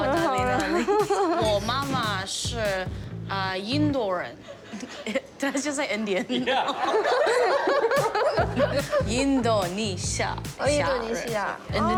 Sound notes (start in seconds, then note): 5.3 both laugh; 5.3 speaks chinese language; 5.4 both speak chinese language; 6.2 laughter; 6.3 laughs; 8.9 both speak chinese language